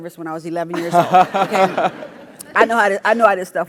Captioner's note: laugh